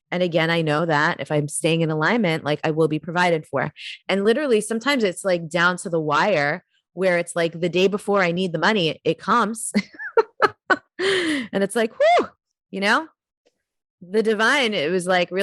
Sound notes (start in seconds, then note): 9.8 giggles; 12.0 exclaims